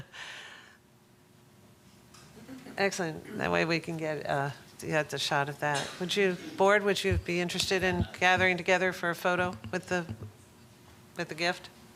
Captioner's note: laughter